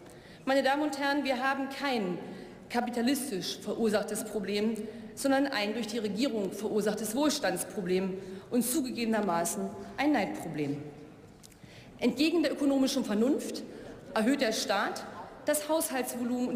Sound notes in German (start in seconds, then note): none